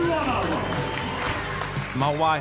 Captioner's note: crowd cheers, claps